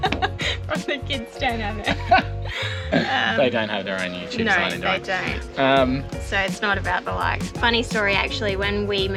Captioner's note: laughing